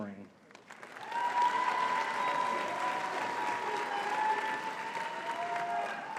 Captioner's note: audience cheering and clapping